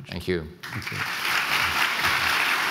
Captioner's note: applause